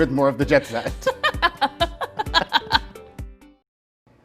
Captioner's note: laughs